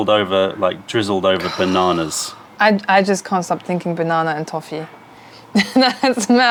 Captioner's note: laughter